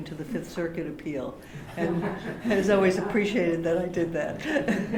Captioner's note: laughter